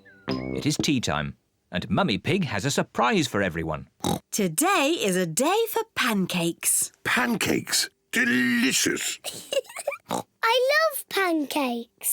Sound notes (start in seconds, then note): 4.0 oinks; 8.2 giggles and oinks